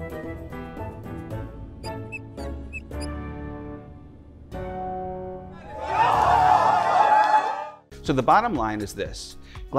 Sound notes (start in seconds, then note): 5.6 cheering